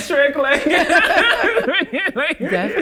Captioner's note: both laughing